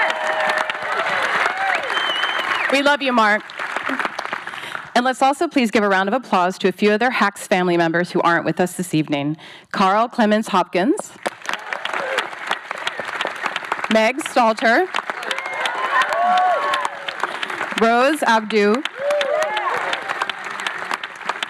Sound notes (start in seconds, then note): 0.0 audience cheering, whistling; 11.1 audience applauds; 14.6 audience cheering; 19.1 applause continues